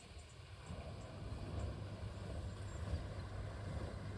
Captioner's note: water mill noise